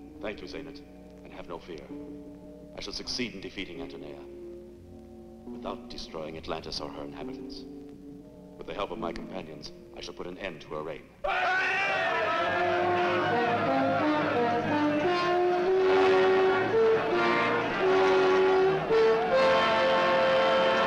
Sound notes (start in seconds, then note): 11.2 men shouting and clamoring; 12.0 grand orchestral music